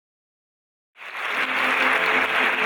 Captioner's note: audience applauds